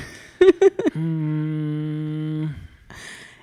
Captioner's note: laughing; groaning